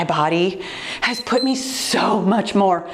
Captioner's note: timer beeps